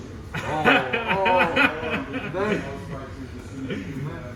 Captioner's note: laughing